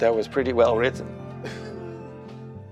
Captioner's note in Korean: 웃음